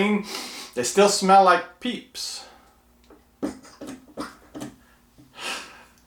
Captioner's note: sniffs; laughs